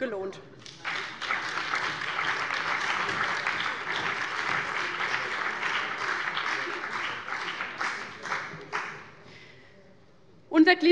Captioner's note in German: Beifall bei dem BÜNDNIS 90/DIE GRÜNEN und der CDU